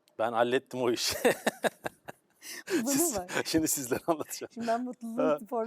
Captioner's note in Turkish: kahkaha